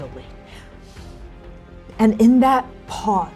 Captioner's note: inhaling